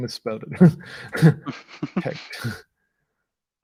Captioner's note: laughing